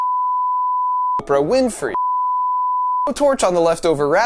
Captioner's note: beep